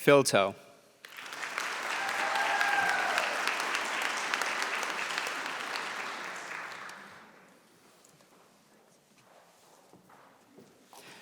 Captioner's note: applause